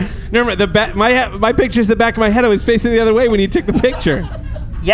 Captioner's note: laughing